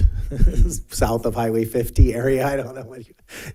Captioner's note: laughs